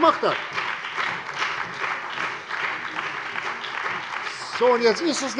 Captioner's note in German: Beifall bei der CDU und dem BÜNDNIS 90/DIE GRÜNEN